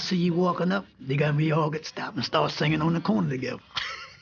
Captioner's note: laughs